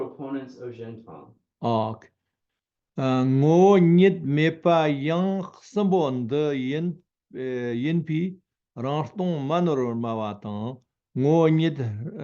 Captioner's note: tibetan